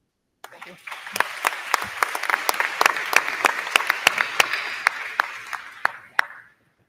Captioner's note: crowd clapping; crowd cheering